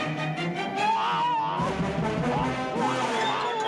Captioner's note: obadiah crying